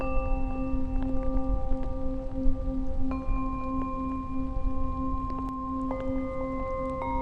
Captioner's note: rain pattering; light dramatic music